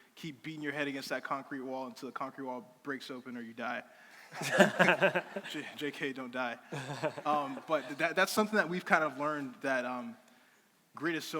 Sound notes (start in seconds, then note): 4.3 crowd laughing